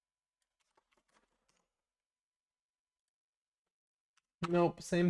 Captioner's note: silence